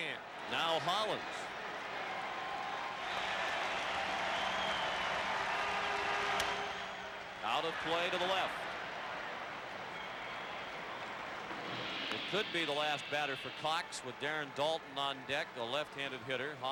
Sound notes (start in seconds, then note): 2.7 applause